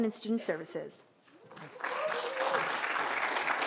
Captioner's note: applause